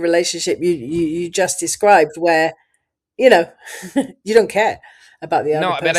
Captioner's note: laughs